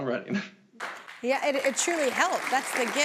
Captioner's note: audience applauding